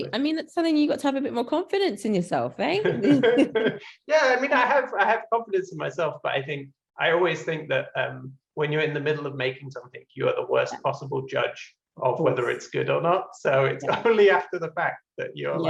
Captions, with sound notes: -Right, I mean, that's something you got to have a bit more confidence in yourself. Right? [laugh] Yeah, I mean I have confidence in myself but I think I always think that when you're in the middle of making something you are the worst possible judge of whether it's good or not. So it's definitely after the fact that you're